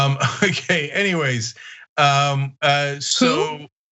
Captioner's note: laugh